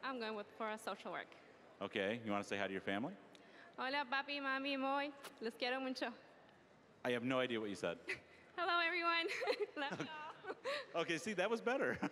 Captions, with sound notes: >> I'M GOING FOR SOCIAL WORK. >> OKAY, DO YOU WANT TO SAY HI TO YOUR FAMILY? >> (speaking Spanish)! >> I HAVE NO IDEA WHAT YOU SAID. >> HELLO, EVERYONE! (laughing) LOVE YOU ALL! >> OKAY, SEE-- THAT WAS BETTER.